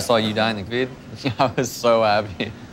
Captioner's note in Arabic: ضحك